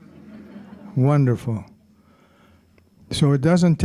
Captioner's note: audience chuckling